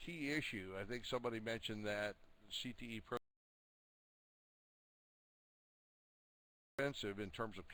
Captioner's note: audio drops